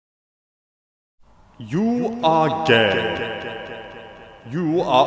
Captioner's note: reverb effect